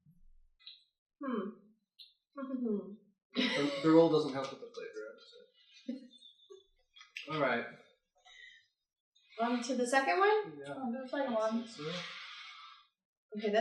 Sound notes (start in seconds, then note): 3.4 laughs; 6.6 laughter